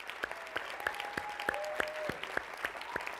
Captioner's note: applause